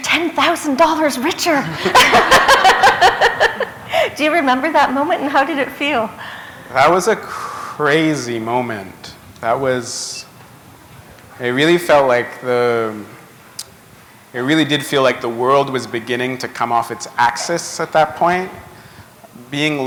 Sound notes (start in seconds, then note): 2.9 chuckle